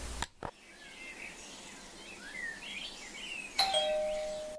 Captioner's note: bird chirping; ding dong